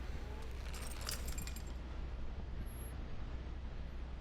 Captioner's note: keys jingling